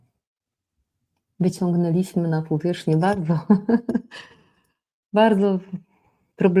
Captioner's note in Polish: śmiech